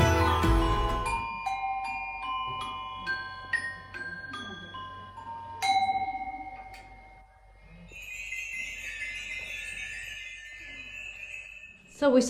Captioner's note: bells